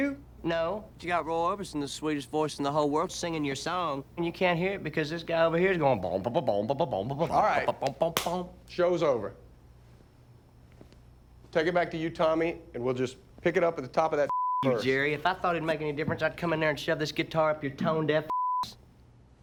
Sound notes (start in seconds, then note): 5.7 imitates bubbly bass line